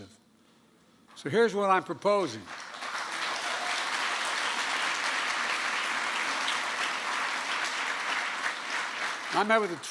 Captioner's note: applause